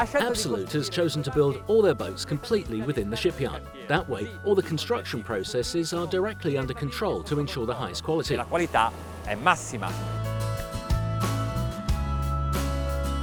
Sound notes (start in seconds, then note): 0.0 speaks Italian; 8.5 speaks Italian; 10.3 upbeat music